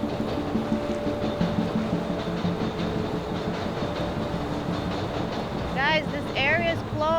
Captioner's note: intense music; train clacking